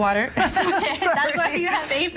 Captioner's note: laughing